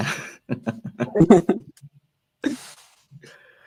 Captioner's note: both laughs